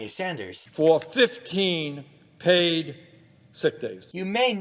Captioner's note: new yorker noises